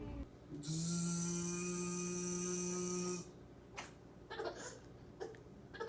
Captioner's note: imitating machine sounds; laughing